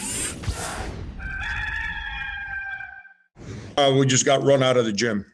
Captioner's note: rooster crowing